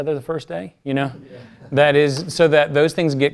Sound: laugh

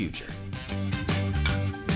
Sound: clinking glasses

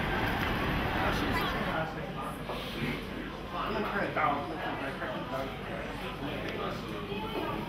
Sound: background conversations

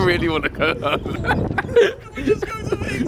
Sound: laughing

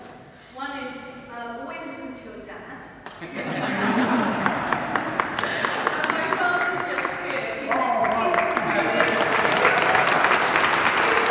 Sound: applause

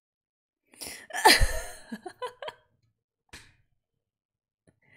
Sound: bursts out laughing

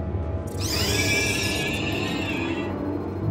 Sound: multiple shrieks at once

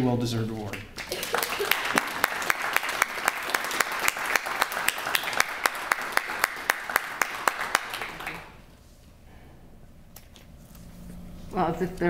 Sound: applause

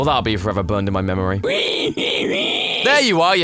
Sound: screaming

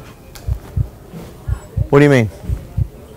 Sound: heart thumping

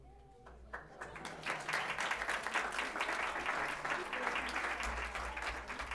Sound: applause

